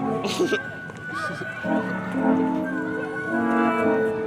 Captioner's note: Sandra giggles